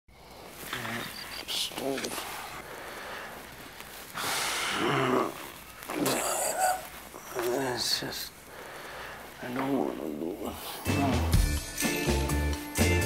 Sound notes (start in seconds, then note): 5.8 speaking gibberish